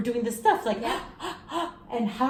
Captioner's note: gasps excitedly